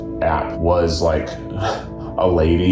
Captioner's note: laughs